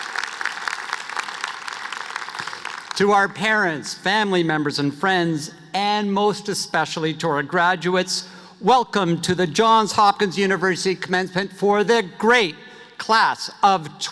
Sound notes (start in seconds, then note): 4.4 applause